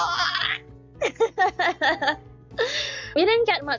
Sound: laughs

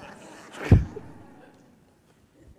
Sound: laughter

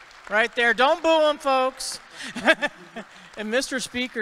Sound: audience clapping; chuckles

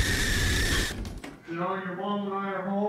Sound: door clicks

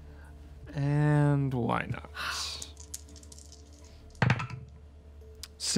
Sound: dice rolling

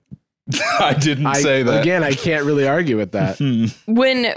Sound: laughs

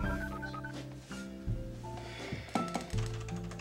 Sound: beeping

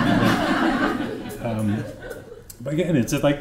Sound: laughter

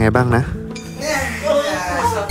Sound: sighs

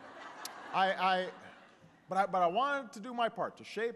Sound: laughter

